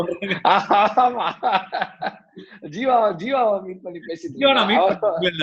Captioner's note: laughs